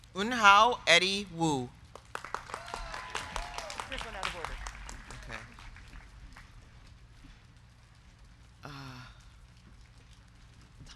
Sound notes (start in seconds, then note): 1.9 crowd clapping; 2.1 crowd cheering